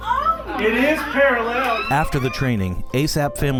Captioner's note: cheers